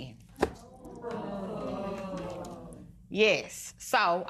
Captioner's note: spectators murmuring